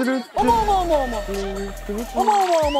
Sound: burst out laughing

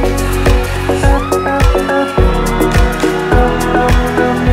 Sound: people cheering

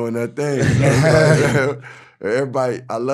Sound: laughing

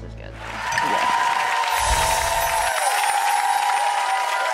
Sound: audience applause

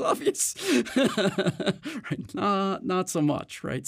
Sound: laughs

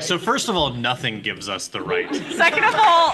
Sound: laughs

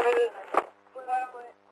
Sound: radio chatter

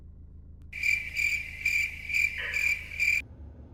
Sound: cricket sounds

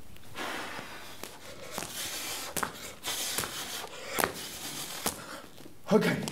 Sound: deep breathing, feet clacking

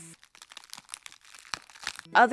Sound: unnecessary ripping noise

